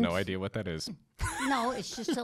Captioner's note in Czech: Chichotá se